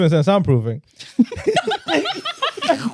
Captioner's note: laughing